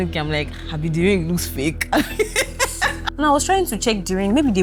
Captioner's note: laughs